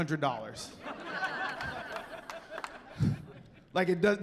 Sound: laughing

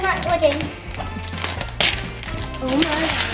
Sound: paper rustling

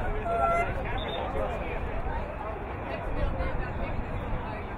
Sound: whistle blowing

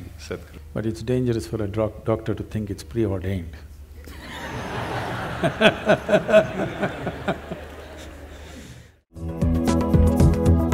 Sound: laughter

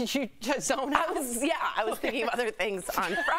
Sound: laughter

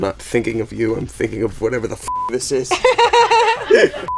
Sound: beep; laughs

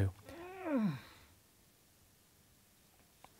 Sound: groan in the background

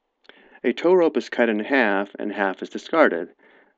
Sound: voiceover

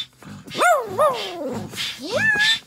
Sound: roar

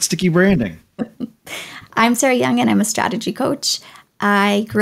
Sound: laughing

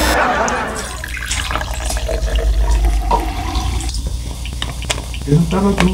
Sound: sound of pouring into a cola cup

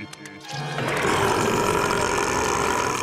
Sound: burping

